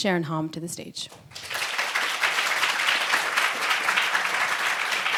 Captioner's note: audience applauds